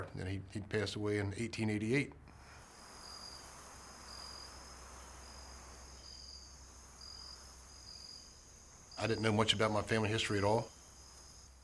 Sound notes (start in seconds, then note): 2.3 insects chirping; 3.6 wind gently whooshing